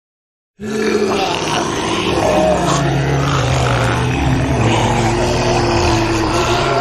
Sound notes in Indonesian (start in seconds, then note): 0.6 suara zombie